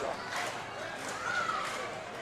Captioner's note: crowd yelling